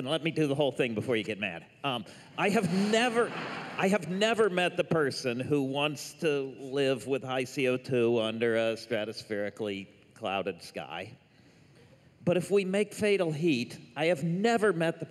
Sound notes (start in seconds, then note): 2.6 laughter